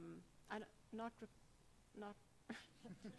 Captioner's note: laughs